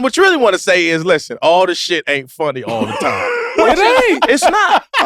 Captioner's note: laughs